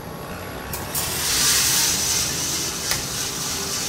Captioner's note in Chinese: 進豆的聲音